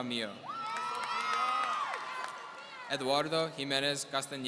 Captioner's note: audience cheering